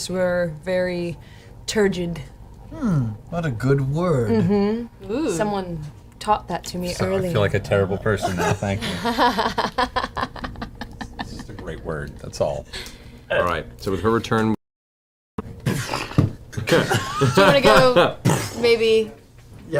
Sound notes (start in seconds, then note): 16.3 punching sounds